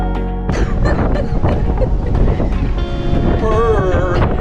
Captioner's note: laughing